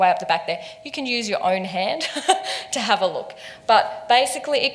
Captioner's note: laughs